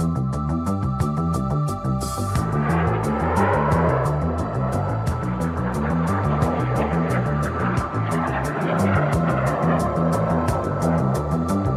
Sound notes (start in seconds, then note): 2.1 upbeat music continues; 2.9 airplanes roaring